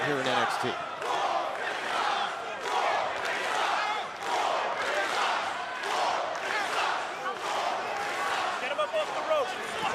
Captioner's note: crowd cheering